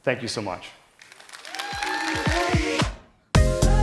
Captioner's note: cheering; upbeat music